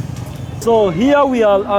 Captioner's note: street noises and motos